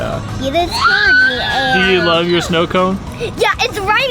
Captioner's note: laugh